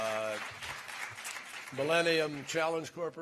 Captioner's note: applause